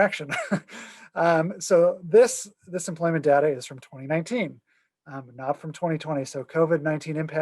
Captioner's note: laughter